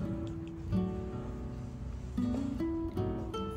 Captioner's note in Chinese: 嗅一嗅